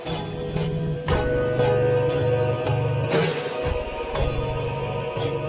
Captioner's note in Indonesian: lonceng